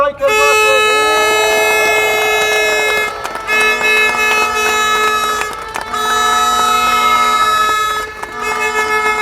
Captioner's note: applause